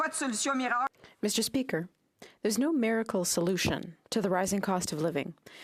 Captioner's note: speaking French